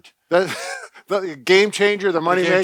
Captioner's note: laughs